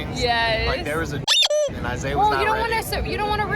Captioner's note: squeaky noise